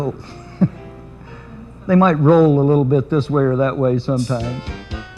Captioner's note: laughs